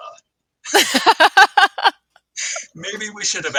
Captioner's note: both laughing